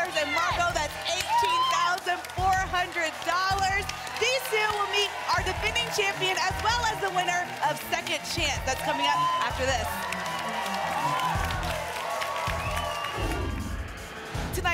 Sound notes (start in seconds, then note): 10.0 applause and cheering; 13.2 whoosh